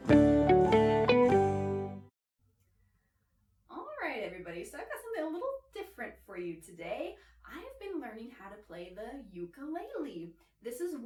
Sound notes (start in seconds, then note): none